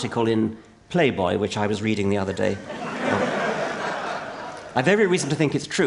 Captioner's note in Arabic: ضحك